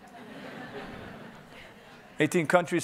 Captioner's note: audience laughing